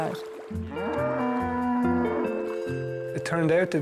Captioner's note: cows moo